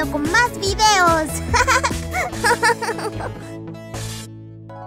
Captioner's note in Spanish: Risa divertida